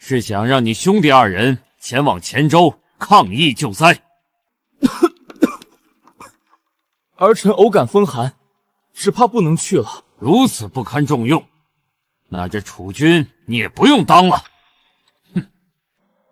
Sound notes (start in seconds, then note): 4.7 cough cough